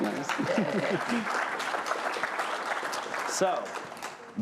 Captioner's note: applause